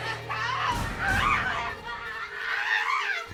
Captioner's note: screams